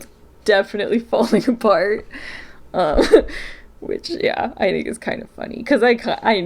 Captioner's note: laughs